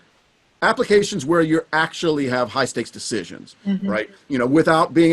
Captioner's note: hums in agreement